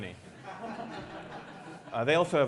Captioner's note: laughter